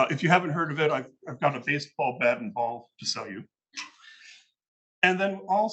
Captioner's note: laughs